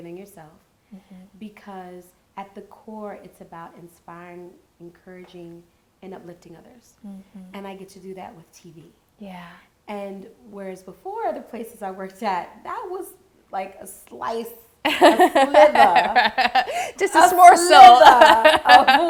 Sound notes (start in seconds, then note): 14.9 laughing